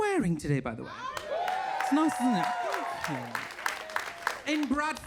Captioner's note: audience cheering